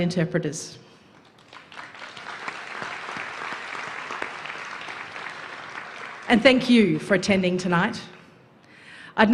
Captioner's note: applause